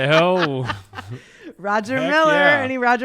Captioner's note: laughs